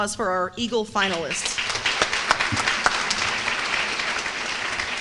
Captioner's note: applause